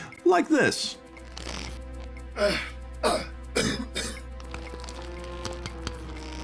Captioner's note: paul dubois coughing and making gloopy virus noises